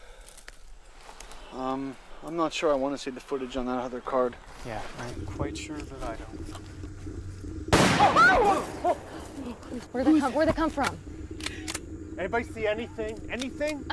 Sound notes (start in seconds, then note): 7.7 loud gunshot; 8.7 fearful gasps